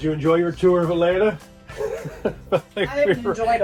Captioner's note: laughs